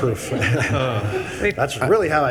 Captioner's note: attendees laughing